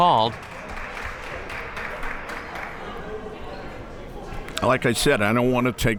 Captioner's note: crowd members clapping